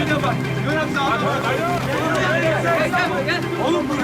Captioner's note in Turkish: Müzik - Gerilim; Bağrışma sesleri